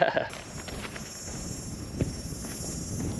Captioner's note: footsteps